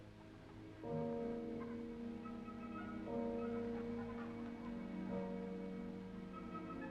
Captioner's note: church bells ringing; men chattering